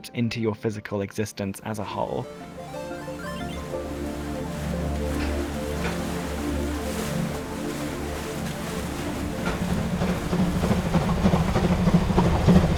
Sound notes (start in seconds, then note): 9.0 train engine chugs